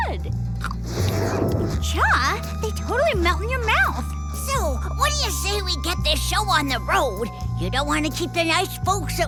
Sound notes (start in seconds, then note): 0.7 moaning